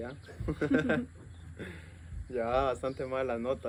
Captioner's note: laughter